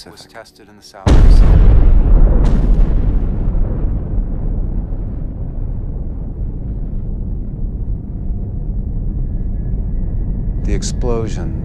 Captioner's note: loud explosion